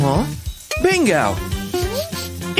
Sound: sniffs

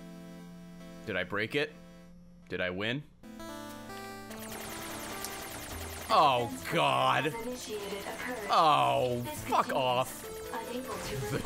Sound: laughs

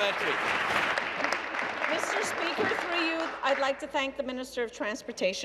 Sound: applause

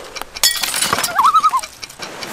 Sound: loon call

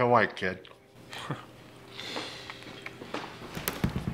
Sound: scoffs

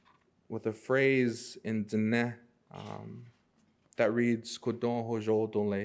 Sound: speaks foreign language

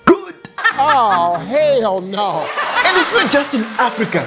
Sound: laughing

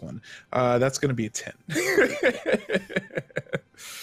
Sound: laughs

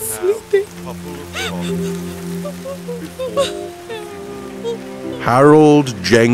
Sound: weeping

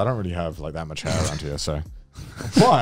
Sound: laughs

